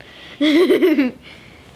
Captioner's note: laughing